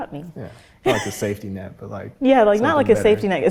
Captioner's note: laughs